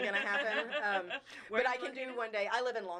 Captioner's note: laughing